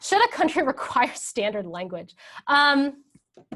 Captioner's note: laughs